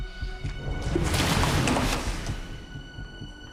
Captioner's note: water splashes